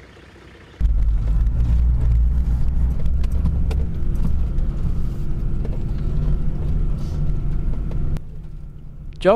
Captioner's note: vehicle sounds